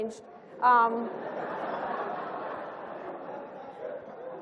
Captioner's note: laughter